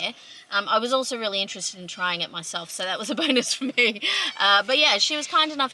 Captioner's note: chuckles